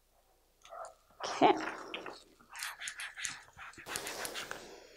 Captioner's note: rubbing